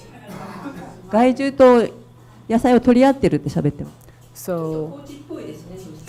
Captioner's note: speaking foreign language